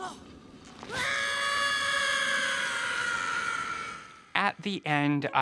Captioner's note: Carrigan grunting; Carrigan screams